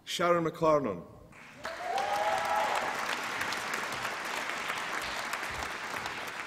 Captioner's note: applause and cheering